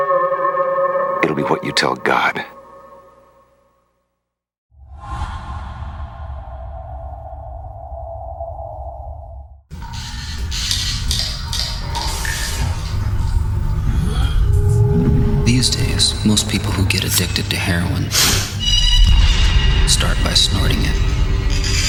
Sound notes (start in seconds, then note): 9.6 static noises, lights flickering